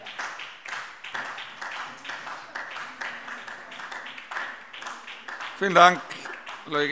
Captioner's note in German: Beifall SPD